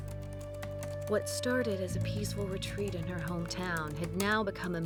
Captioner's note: typing resumes